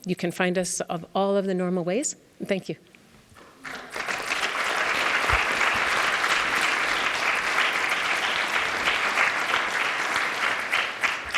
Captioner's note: applause